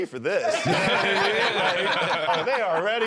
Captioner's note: both laughing